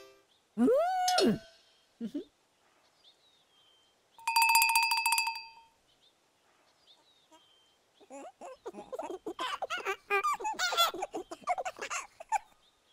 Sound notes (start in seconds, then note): 4.2 ringing; 8.0 squeaking, giggling